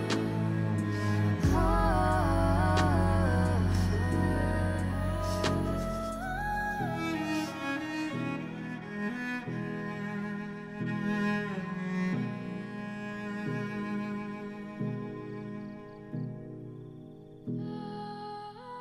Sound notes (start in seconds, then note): 1.2 Keely sniffles; 1.2 somber music continues; 10.5 somber music continues